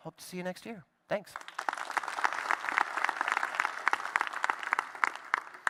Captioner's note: applause